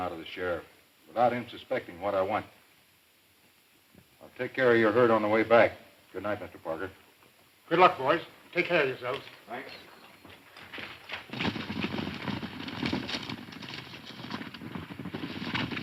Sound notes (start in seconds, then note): 11.3 horses galloping